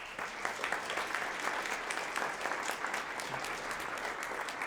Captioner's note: audience applauding